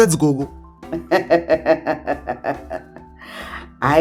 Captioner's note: laughs